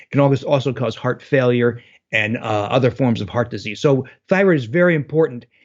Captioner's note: none